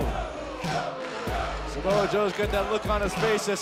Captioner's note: fans chanting